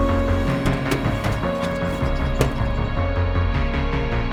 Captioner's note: door opening